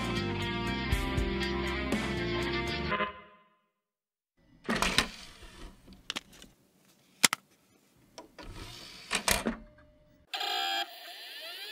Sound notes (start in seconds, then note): 0.3 computer error beep; 2.1 disc tray opens; 4.6 disc tray closes; 7.8 disc whirrs inside computer